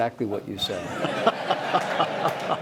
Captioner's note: laughter